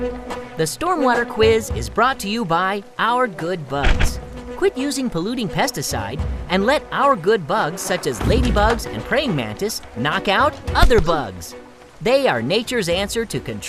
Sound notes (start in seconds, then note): 10.8 punching sound